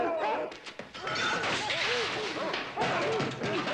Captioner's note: barking and loud banging